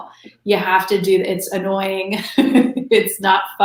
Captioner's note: laughs